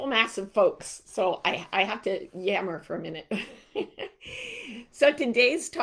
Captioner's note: chuckling